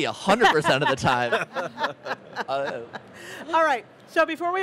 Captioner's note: they laughs